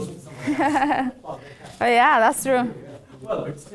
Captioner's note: man speaking faintly off microphone